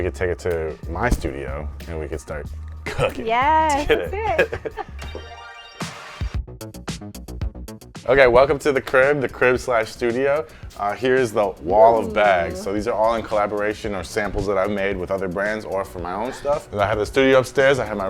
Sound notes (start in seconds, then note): 3.6 both laughing; 6.0 upbeat music